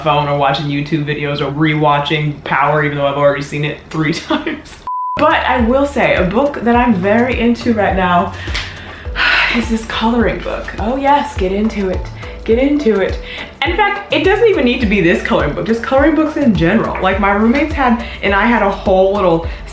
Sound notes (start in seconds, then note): 4.8 beep